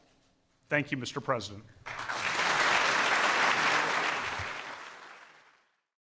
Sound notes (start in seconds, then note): 1.8 applause